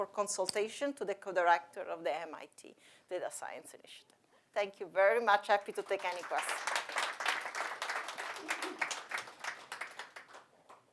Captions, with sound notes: consultation to the co-director of the MIT data science edition. Thank you very much, happy to take any questions. *applause*